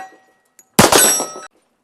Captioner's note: bang